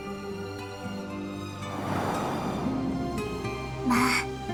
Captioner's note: whoosh